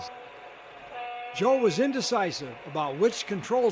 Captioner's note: voiceover